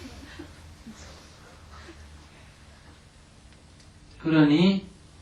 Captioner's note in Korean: 청중 웃음